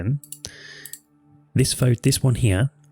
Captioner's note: clicks on mouse